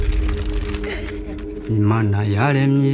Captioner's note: bike clicking; child breathes heavily; person singing in foreign language